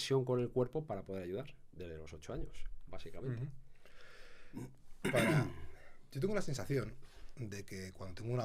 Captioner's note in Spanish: carraspeo